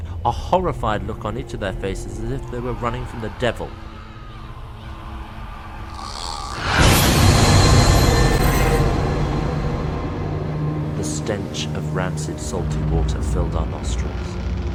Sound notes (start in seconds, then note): 4.2 screams echo; 5.8 ghost gurgles